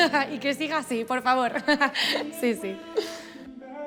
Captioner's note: laughs